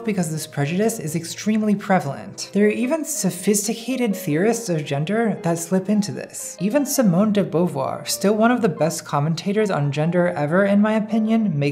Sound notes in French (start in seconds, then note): none